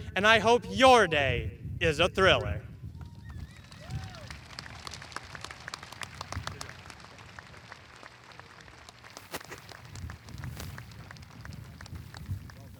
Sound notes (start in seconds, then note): 3.5 audience applauding